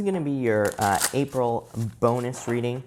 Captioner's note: cards shuffling